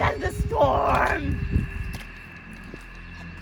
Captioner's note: storms harder